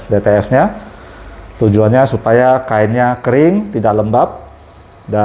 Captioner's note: beeping sound